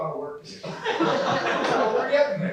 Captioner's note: laughter